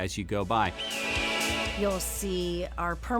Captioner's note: hawk screech